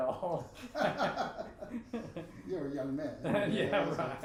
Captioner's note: both laughing